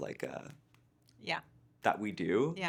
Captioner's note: hand patting